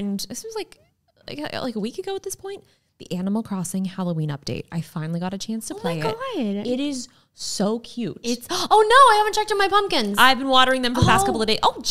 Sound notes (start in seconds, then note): none